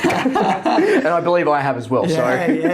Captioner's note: both laugh